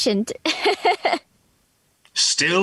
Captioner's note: laughing